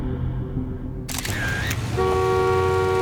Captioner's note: shutter clicking; horn honking